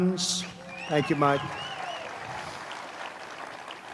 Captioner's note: applause